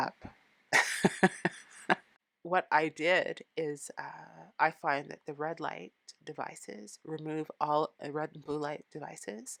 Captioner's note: laughing